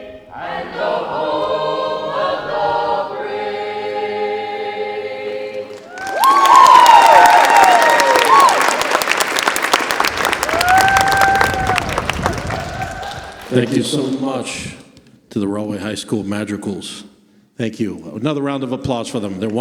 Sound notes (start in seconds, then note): 5.7 applause